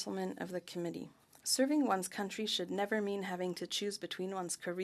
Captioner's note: speaking French